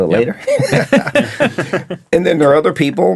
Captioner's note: all laughing